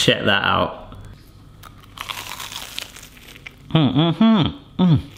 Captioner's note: crunching